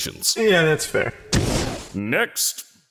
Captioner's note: fwoosh